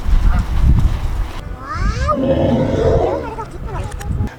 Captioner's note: monster noises